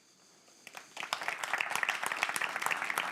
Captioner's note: applause